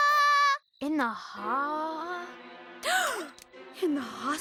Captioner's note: gasps